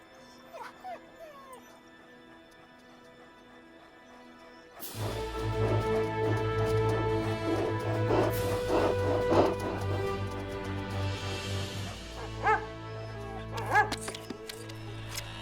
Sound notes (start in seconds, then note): 0.0 dogs whining; 8.4 Buck panting; 11.8 Buck barking